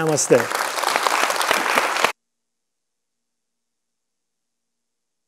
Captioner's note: audience applauding